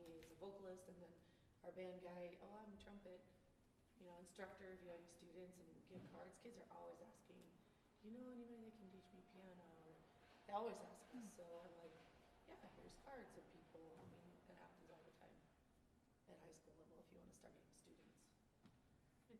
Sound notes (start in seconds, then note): none